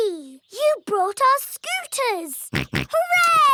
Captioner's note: snorts